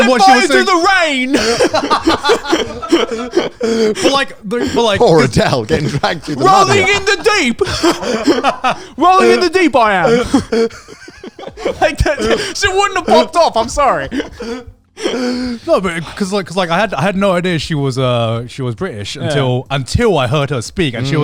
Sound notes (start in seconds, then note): 2.1 all laughing; 8.0 both laughing